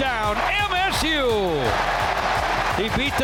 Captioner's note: crowd cheering